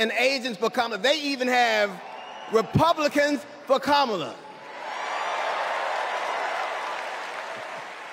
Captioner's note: cheers and applause